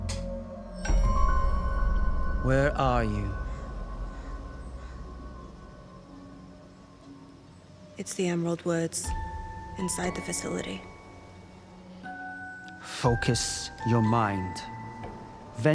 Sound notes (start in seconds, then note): 1.1 birds chirping; 1.1 pensive music